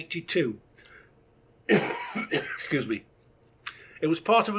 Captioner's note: coughs